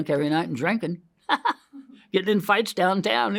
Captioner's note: laughs